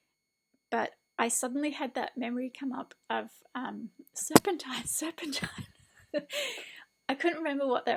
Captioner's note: laughs